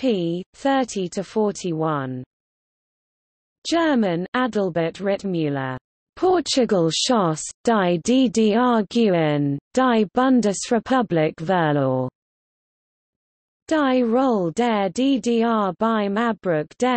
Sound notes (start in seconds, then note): 1.2 German